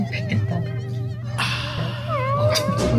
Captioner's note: sigh